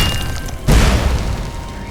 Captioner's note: ground being crushed